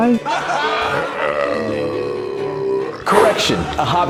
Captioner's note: burp